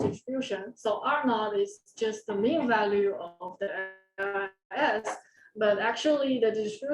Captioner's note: audio dropping